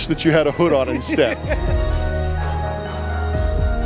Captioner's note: laughing; spooky haunting music